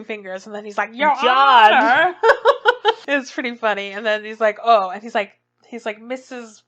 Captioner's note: laughs